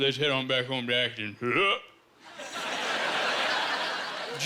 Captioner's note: hiccupping loudly